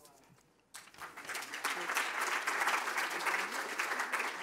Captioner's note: applause